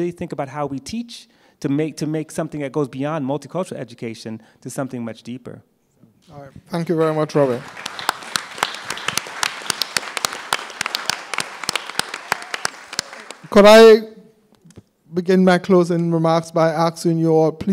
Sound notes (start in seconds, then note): 7.2 applause